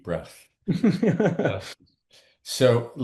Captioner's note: laughs